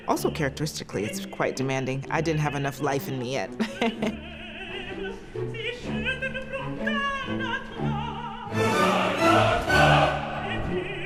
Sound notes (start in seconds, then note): 3.6 chuckles